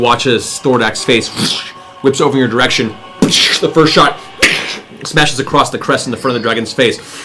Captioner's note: gunshot